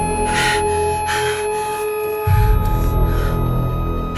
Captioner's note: breathing heavily